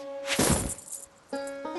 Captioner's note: clunk